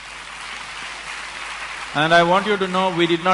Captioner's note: applause